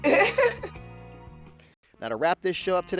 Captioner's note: laughs